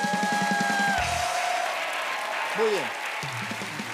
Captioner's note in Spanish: aplausos